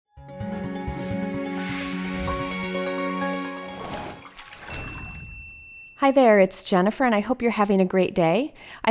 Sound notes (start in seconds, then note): 0.1 cheerful instrumental music; 4.4 water splashing